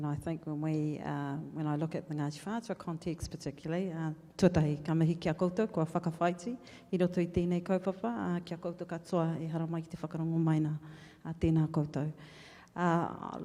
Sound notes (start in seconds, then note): 2.7 speaks in foreign language